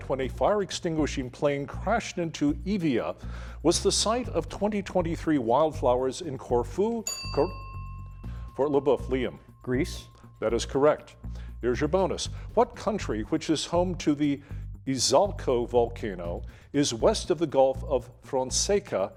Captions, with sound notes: when a fire-extinguishing plane crashed into Evia, was the site of 2023 wildfires in Corfu. [bell dinging] Fort LeBoeuf, Liam. Greece. That is correct. Here's your bonus, what country which is home to the Izalco volcano, is west of the Gulf of Fonseca